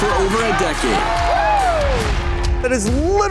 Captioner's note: cheering